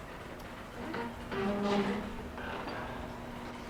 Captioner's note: door creaking